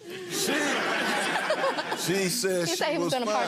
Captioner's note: audience laughing